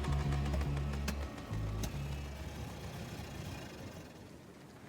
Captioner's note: engine sputtering